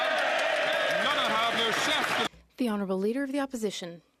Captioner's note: some Applause